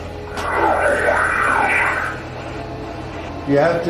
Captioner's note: equipment murmurs